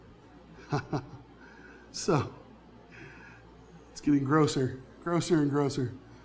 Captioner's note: laughs